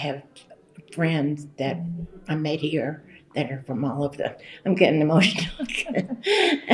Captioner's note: laughter